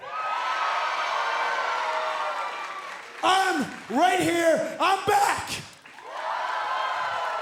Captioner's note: cheers and applause